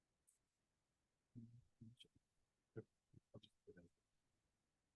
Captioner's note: whispers